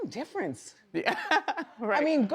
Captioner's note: laughs